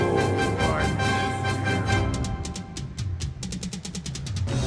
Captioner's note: threatened voice